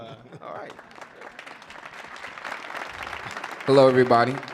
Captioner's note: audience applauding